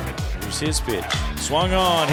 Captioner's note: voiceover